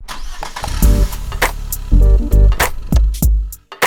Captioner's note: engine revs